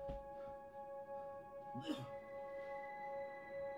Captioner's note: cough